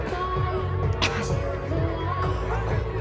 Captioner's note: coughs